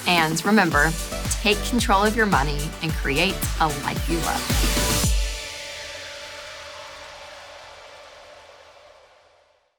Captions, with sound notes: And remember, take control of your money, and create a life you love. (woosh)